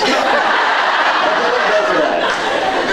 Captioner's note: laughs; scattered laughs